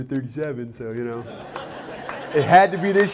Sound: laughter, applause

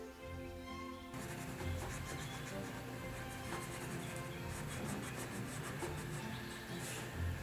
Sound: coloring sounds

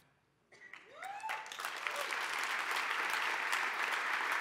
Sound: applause

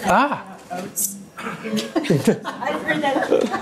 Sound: laughter

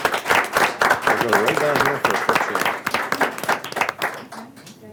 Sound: clapping

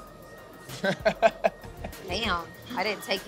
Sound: laughs

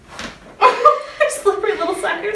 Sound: laughs

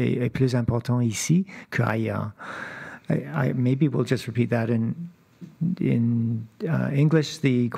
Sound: speaking French

